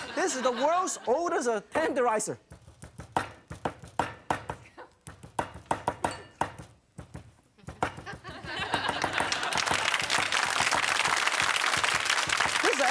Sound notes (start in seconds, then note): 3.2 pounding in a musical rhythm; 9.0 applause